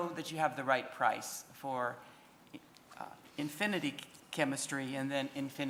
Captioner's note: audio buffering